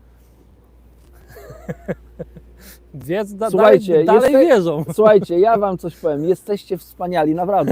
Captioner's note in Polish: śmiech